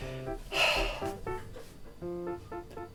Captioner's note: sigh